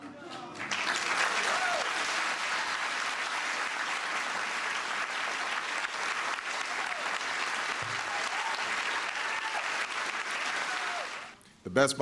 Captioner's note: cheers and applause